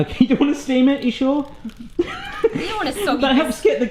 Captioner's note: laughs